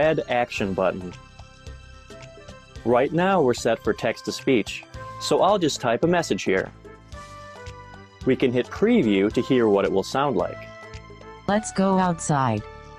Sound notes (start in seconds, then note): 11.5 female voice